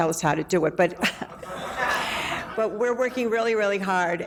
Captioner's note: laughing